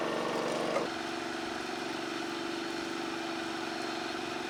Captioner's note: engines running